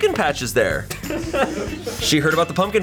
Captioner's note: colleagues laughing